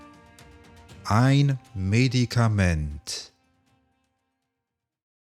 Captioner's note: german